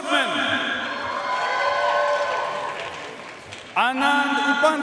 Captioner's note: audience cheering and applauding